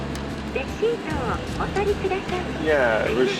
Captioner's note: in Japanese